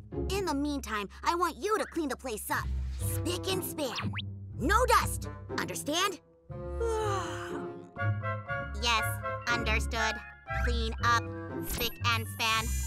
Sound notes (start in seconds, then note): 6.8 yawns